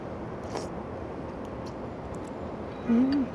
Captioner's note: slurping